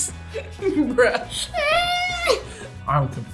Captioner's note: laughs